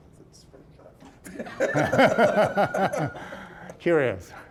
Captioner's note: all laughing